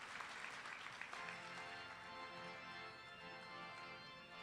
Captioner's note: applause